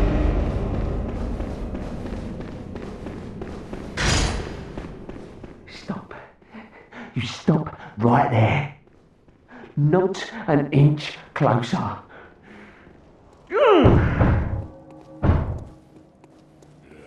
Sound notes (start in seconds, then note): 13.7 hammering on the door